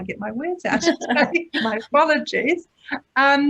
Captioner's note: laughter